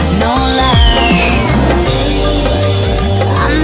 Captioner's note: biff!